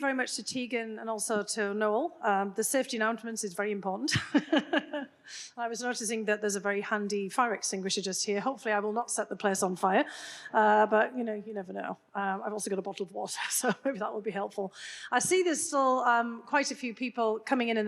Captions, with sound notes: - Well, thank you very much to Teagan and also to Noel. The safety announcements is very important. (Dr. Hill laughs) I was noticing that there's a very handy fire extinguisher just here. Hopefully, I will not set the place on fire. But, you know, you never know. I've also got a bottle of water, so maybe that will be helpful. I see there's still quite a few people coming in